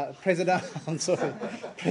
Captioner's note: laughter